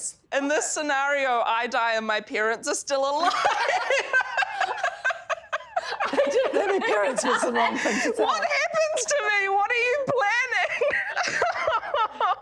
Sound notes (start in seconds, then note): 3.2 laughs hysterically; 11.5 giggles